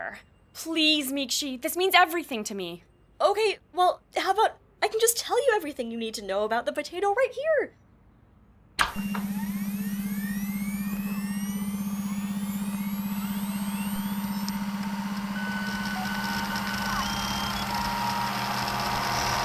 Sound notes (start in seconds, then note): 8.7 computer start-up sounds; 14.8 beeping, booping